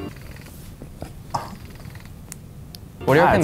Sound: vibrations

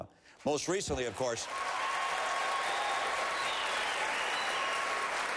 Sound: applause

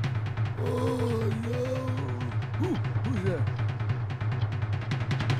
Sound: moans and mumbles incoherently

